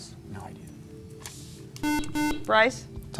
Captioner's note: beeping